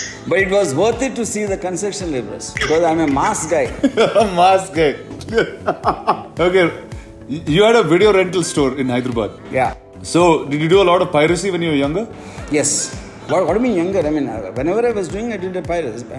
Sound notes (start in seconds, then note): 2.6 laughs